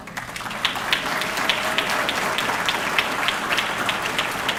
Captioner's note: audience clapping